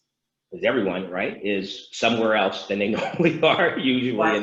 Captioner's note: laughs